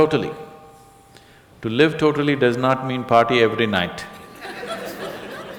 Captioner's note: laughter